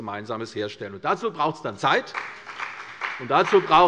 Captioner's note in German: Beifall bei der CDU und dem BÜNDNIS 90/DIE GRÜNEN